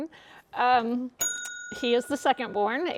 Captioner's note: bell dings